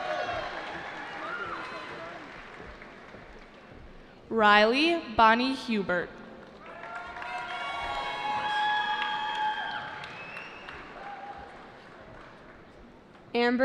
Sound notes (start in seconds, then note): 0.0 cheering; 6.6 cheering